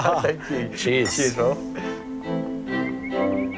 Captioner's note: laughs